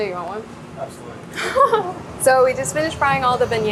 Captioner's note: chuckles